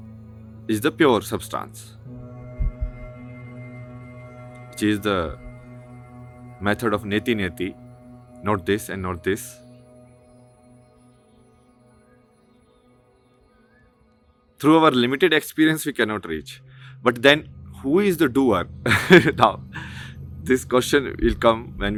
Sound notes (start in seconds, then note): 2.5 नाक से की जाने वाली आवाज़